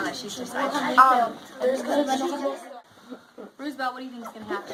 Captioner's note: students discuss